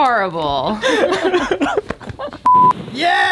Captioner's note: laughing